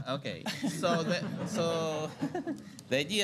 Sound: laughter

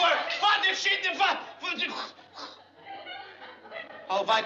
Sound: sputtering vocalizations

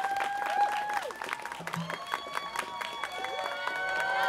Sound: students cheering

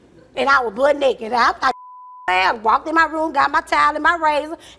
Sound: beep

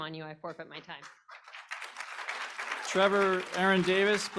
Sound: applause

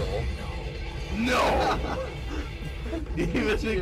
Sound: laughs

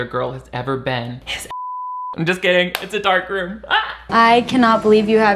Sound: beep

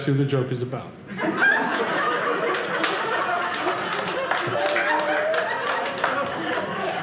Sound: audience laughing

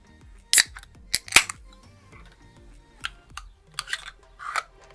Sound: soda can opens

